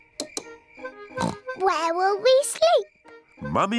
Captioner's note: oinks